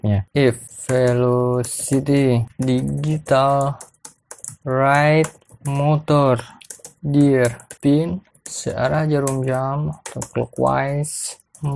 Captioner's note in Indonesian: typing code